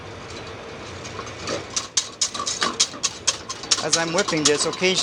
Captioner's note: whisking ingredients